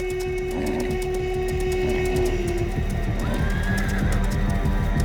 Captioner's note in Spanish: Relincho